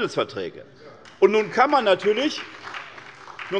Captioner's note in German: Beifall bei der SPD